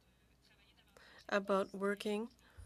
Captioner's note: speaking French